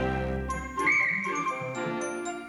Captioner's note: blows whistle